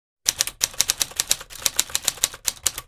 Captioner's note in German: Tastatur-Getippe